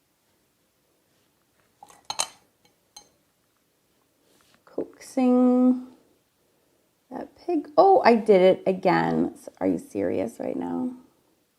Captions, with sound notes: (brush clanks) Coaxing that, oh, I did it again. Are you serious right now?